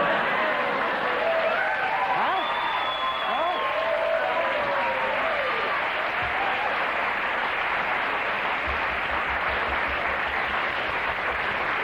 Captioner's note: cheers and applause